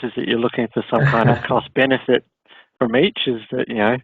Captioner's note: laughing